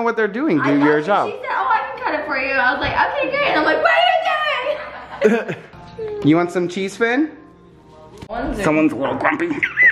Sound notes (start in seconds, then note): 4.4 laughing; 9.2 kissing